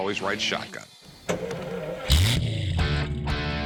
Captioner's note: engine starting